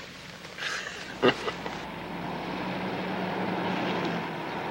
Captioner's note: Casey chuckles